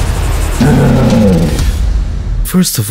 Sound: roar!

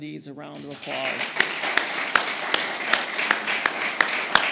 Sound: applause

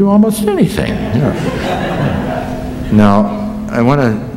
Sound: laughter

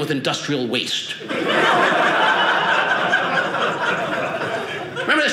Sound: audience laughing

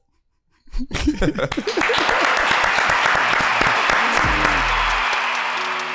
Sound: audience applauding; chill hip hop beat

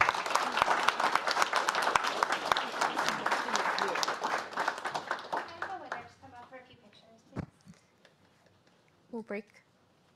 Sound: applause

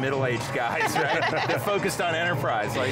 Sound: laughing

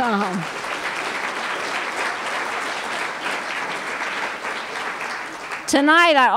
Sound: applause

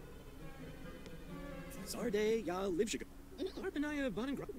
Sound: Simlish

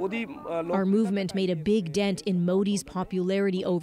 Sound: speaking foreign language

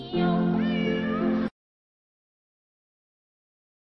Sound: miaow

